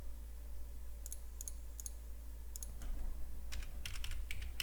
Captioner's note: mouse clicks; keys typing